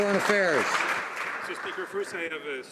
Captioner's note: some Applause